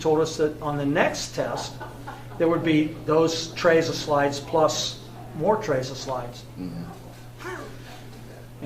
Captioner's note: chuckles